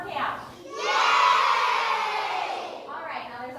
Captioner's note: cheers